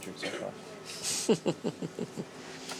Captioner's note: chuckling